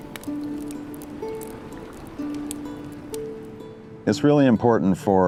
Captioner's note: fire crackling